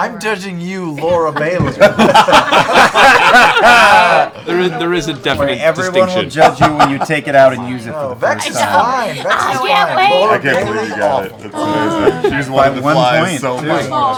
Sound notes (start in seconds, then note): 1.0 laughter